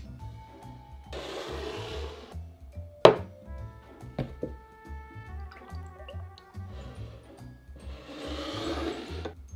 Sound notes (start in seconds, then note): 5.2 liquid pouring